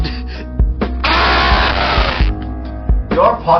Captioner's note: screams